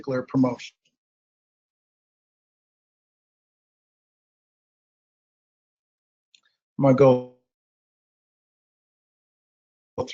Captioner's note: silence